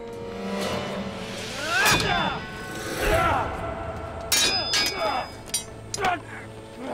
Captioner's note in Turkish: Dövüş sesleri